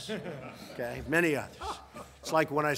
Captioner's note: laughter